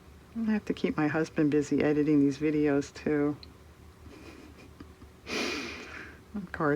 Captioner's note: laughs